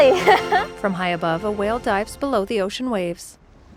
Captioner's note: laughing